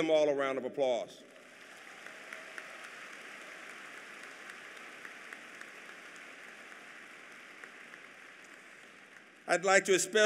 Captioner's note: applause